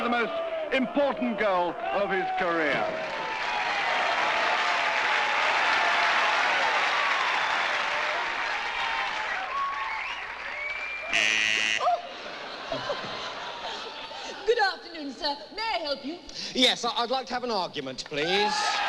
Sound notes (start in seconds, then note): 3.7 all cheering; 11.1 buzzes; 12.6 yelps, laughs